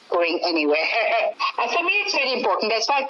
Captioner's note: laughing